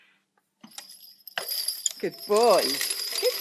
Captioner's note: bells jingle